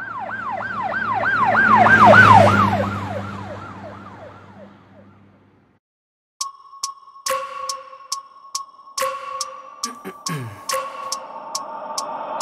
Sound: police Siren

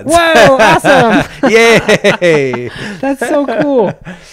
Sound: laughs

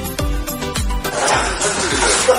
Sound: Go Ara laughs

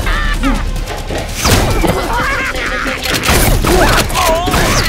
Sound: clowns laughing

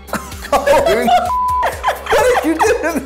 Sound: laughing

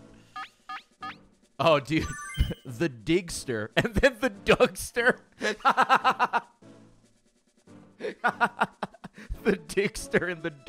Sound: laughs

